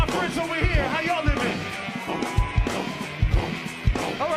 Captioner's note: loud cheering